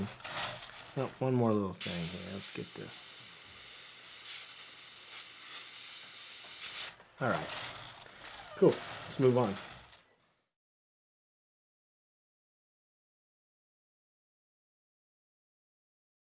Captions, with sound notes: Oh, one more little thing here. Let's get this. (hissing) Alright, cool. (rattling) Let's move on.